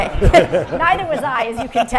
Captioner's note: everyone laughing